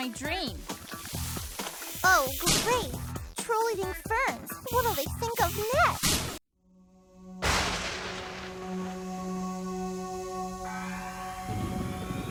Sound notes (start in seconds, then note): none